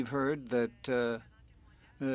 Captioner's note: speaking French